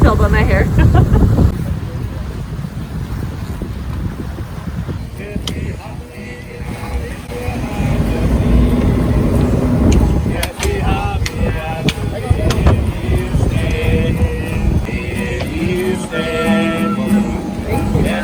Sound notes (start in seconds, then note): 0.7 laughter; 1.8 wind swooshing